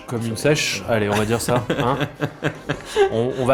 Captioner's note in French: rires